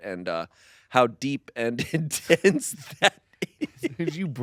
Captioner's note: laughs